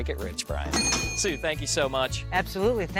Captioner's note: cash register dings